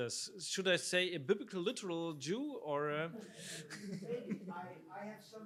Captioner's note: laughs